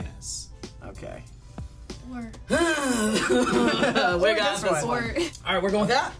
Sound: groans

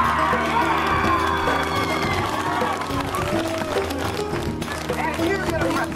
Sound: clapping and Cheering

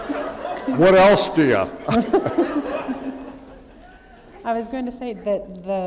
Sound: laughter

